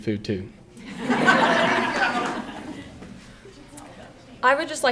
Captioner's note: audience laughing